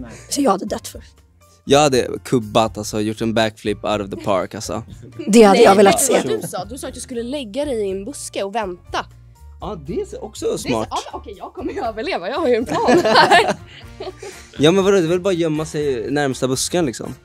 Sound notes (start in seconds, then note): 12.7 laugh